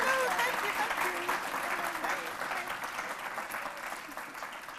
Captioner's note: applause